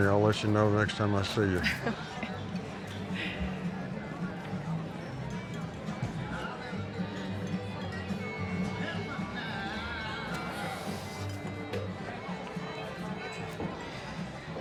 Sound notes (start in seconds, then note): 1.6 laughs; 3.9 chatter